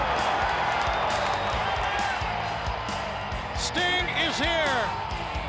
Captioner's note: crowd cheering